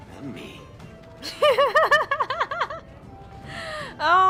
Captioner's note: bursts out laughing